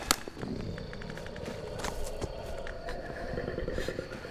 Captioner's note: werewolf breathing